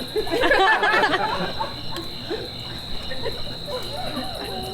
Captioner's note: audience laughs